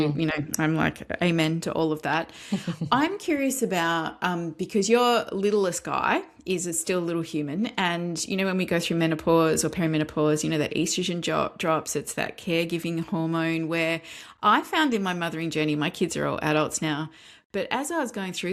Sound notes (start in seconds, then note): 2.4 laughs